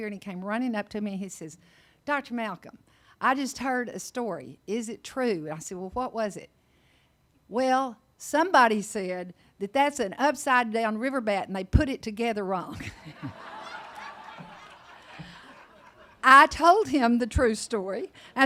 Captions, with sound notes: and he came running up to me and he says, "Dr. Malcolm, I just heard a story. Is it true?" And I said, "Well, what was it?" "Well, somebody said that that's an upside down Riverbat and they put it together wrong." (audience laughing) I told him the true story.